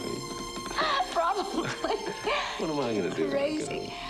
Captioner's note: laughing